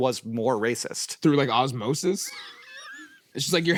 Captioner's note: laughs